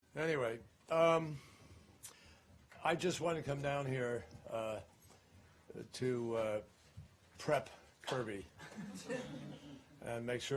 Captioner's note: laughter